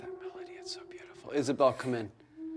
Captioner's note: whispers